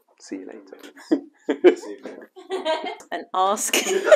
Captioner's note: laughter